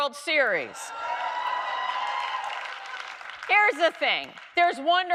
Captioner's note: audience cheering